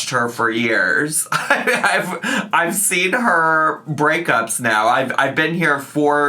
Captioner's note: laughs